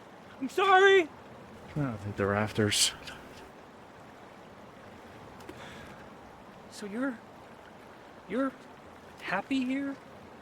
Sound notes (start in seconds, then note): none